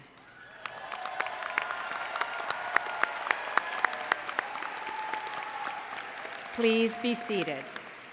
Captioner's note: applause